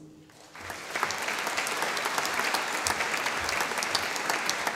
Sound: audience applauding

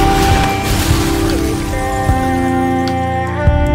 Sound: explosion

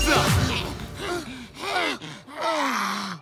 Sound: gasping; grunting

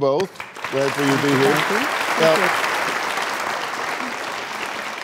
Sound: applauding

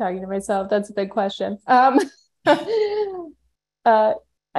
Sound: laughs

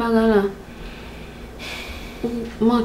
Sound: sighs

